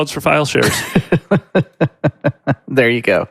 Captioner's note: laughs